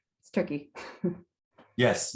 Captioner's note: chuckles